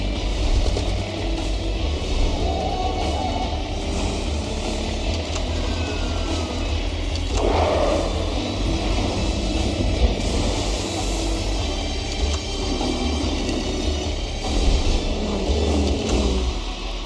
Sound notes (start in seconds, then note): 7.1 lion roar; 8.6 thunder clap & Music; 12.6 camera click, bike passes & music